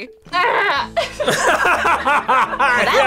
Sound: both laugh

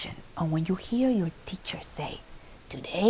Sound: none

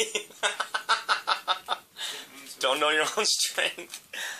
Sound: laughing

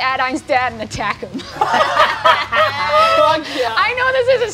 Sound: all laugh

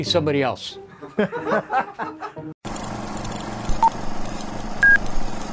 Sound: laughing in background

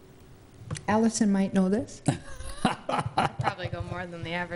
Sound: laughter

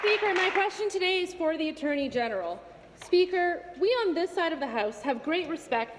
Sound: applause

